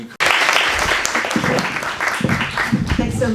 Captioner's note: applause